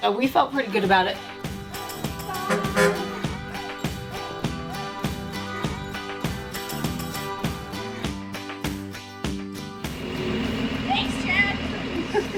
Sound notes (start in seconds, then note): 2.3 bus honking; 4.1 upbeat music